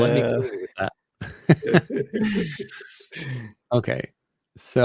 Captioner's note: chuckling